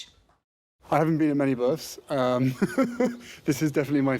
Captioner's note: laughs